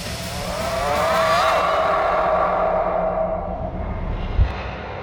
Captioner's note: discordant scream builds, fades